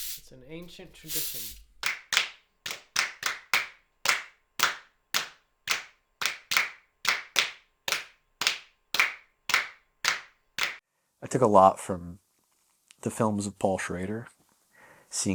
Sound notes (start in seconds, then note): 2.6 band clapping